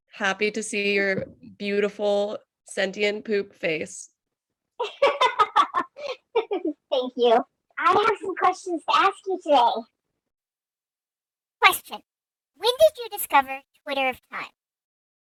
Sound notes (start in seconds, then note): 4.8 laughs